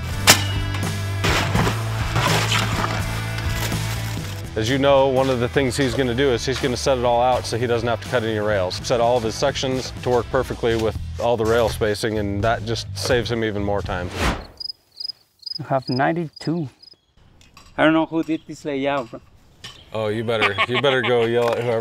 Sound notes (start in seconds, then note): 1.1 digger thuds; 1.1 bucket scrapes; 14.0 image whooshes; 14.4 crickets chirp; 20.2 laughs